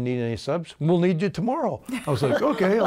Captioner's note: laughing